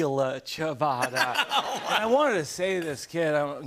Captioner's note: laughter